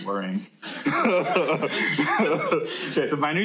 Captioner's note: laughter